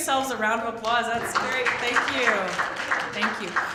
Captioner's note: applause